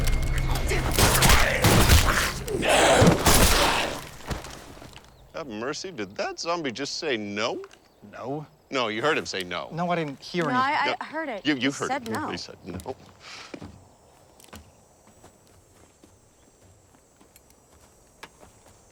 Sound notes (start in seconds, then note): 0.0 gunshots; 0.7 growling